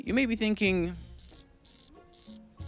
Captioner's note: squeaking